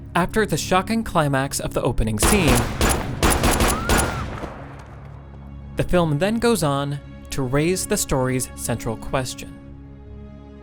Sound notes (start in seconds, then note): 2.2 guns blarring; 3.7 woman screaming